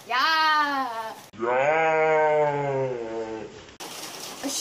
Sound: low pitched, slowed down

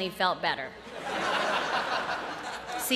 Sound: laughter

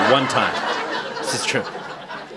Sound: laughter

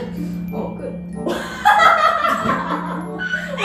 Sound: laughs

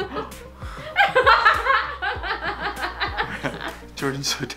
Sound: laughing

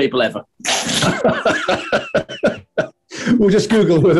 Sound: laughter

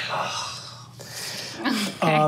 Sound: groans

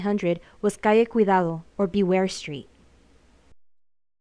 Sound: speaking in foreign language

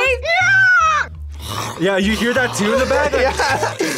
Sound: screams; snarling

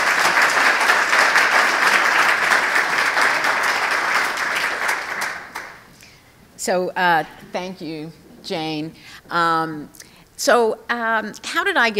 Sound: applause

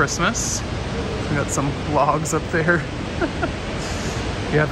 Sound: laughs

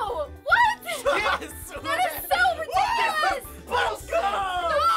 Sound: laughing

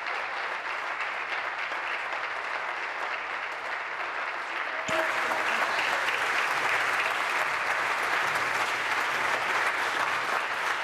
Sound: applause

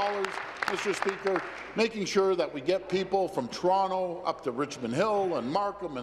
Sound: applause

